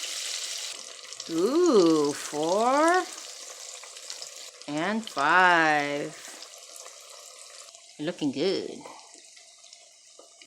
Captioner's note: tempura continues to sizzle loudly; sizzling